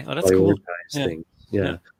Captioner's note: overlapping chatter